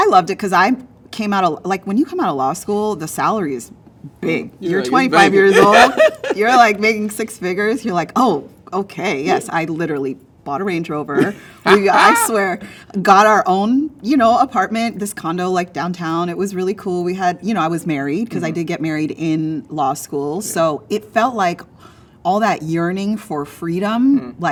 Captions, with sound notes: - I loved it, because I came out of, when you come out of law school, the salary is big. You're 25 years old. - Yeah, it's big. (laughs) - You're like making six figures. You're like, "Oh, okay." Yes, I literally bought a Range Rover. I swear. Got our own apartment. This condo downtown. It was really cool. I was married, because I did get married in law school. So it felt like, all that yearning for freedom,